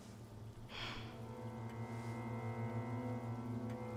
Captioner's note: Rachel sighs